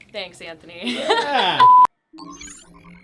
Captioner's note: laughing